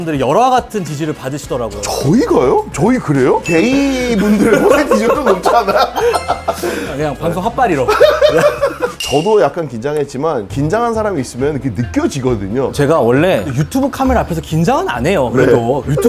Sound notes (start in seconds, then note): 7.8 heh heh heh heh heh heh heh